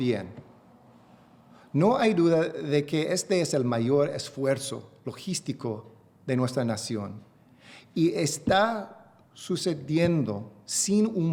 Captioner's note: remarks in spanish; speaking spanish